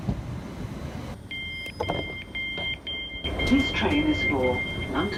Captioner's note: beeping